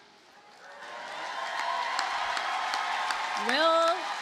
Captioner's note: audience cheers and applauds